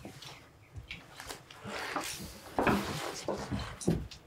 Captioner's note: footsteps thudding